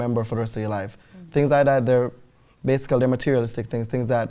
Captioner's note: none